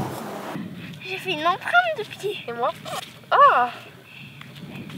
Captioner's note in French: voix d'enfant